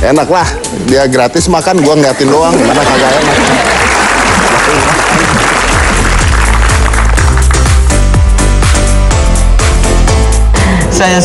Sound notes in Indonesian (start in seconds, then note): 4.1 tepuk tangan